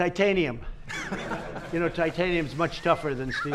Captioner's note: laughter